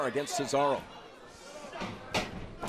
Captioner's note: crowd chatter; crowd cheering